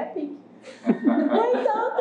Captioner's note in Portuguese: risos